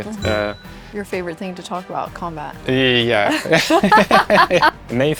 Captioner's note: laughs